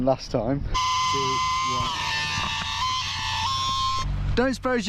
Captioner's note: pump whirring